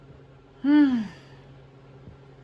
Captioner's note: sighs